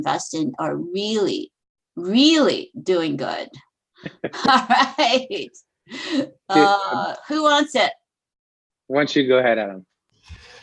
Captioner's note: laughter